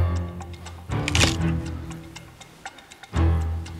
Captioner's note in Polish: dźwięk odrywania czegoś